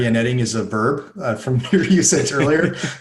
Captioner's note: laughing